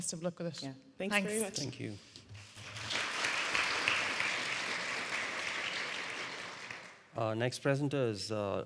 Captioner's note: audience applauding